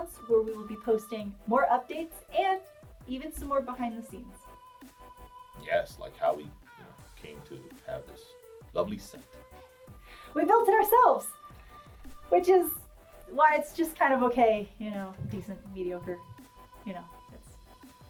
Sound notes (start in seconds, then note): none